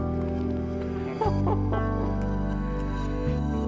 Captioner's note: laughing